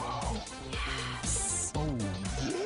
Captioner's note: sighs